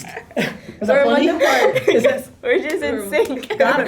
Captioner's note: girls laughing